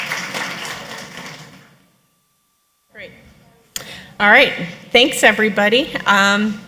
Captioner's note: applause